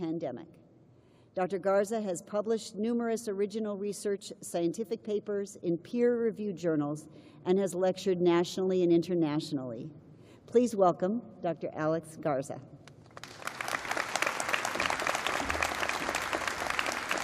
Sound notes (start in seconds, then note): 3.6 applause